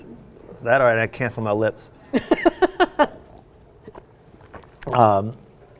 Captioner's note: laughing